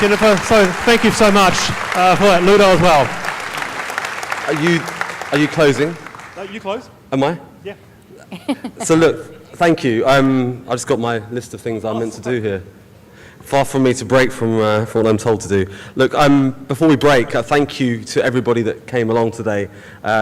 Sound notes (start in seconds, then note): 3.1 clapping; 8.1 laughs